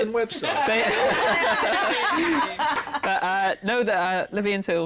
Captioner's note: laughter